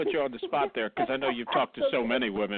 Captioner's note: laughs